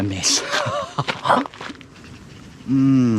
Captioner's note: laughs